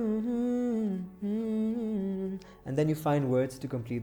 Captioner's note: humming